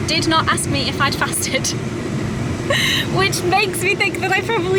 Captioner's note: chuckles